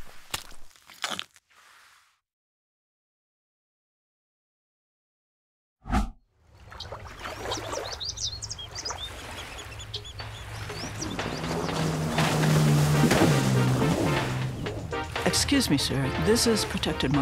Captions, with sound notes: (water trickling) (birds chirping) (boat engine revving) (upbeat music) - Excuse me, sir, this is protected marshlands.